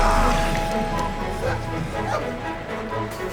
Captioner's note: Larry barking